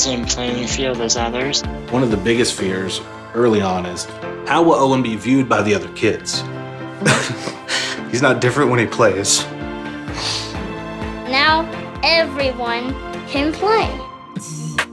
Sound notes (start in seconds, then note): 7.0 sniffles; 14.3 beatboxing